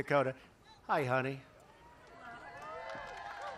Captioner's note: applause